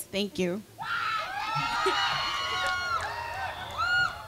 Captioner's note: crowd cheering